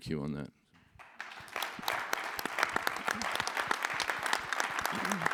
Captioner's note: audience applauds